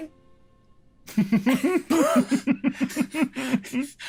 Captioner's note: laughs